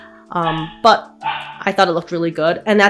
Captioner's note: dog barks